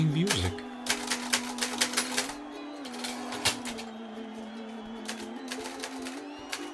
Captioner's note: typewriter keys clanking